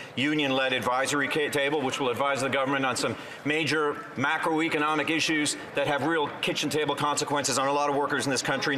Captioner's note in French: voix de l'interprète